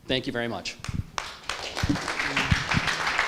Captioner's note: applause